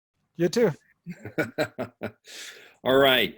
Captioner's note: laughing